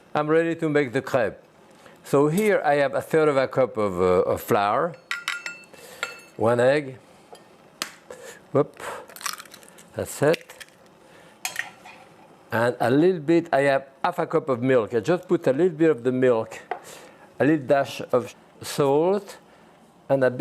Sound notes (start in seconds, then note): 5.0 cup clinking; 9.0 egg cracking